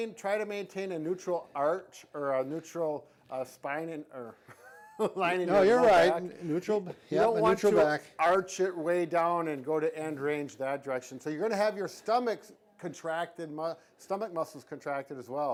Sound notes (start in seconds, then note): 4.4 laughing